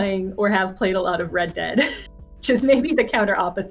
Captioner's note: chuckles